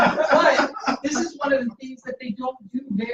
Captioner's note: laughter